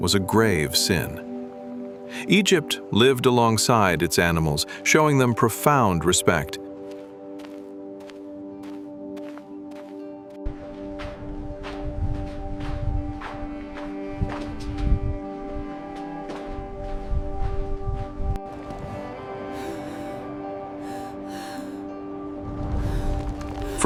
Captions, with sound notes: was a grave sin. Egypt lived alongside its animals, showing them profound respect. [footsteps] [instrumental music plays] [woman breathes heavily]